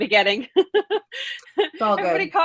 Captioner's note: laughs